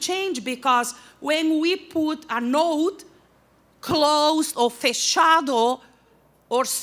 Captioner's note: non-english speech